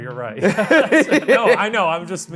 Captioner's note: pair laughs